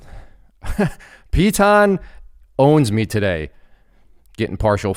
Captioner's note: laughs